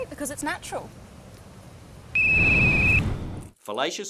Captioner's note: blows whistle